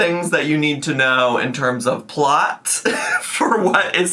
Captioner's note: laughs